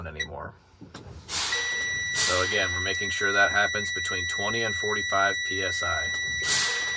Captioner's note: warning alarm